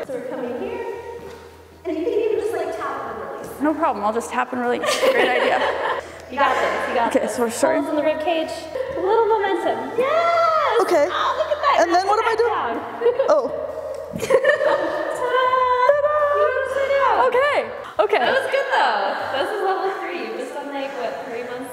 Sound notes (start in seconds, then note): 4.8 all laughing; 13.8 feet thumping; 14.1 both laughing; 14.1 laughing